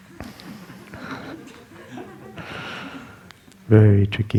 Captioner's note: laughter